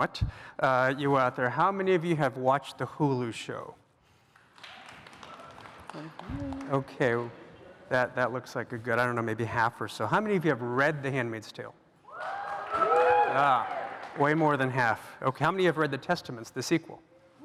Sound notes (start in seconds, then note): 4.3 applause; 12.0 cheers